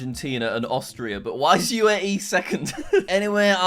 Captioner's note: laughs